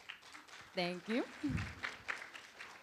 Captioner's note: room applauds